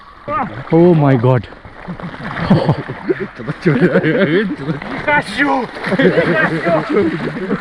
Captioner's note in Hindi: हंसी